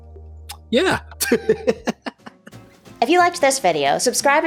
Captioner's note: laughing